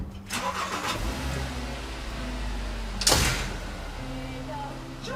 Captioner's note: car engine rumbling